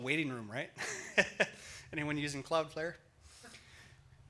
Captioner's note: laughs